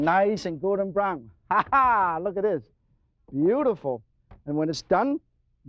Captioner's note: laughs